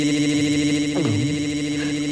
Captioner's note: gulp; groaning